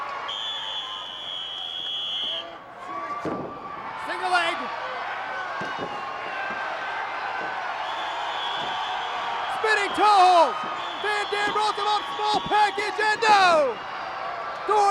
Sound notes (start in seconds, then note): 6.1 crowd cheering continues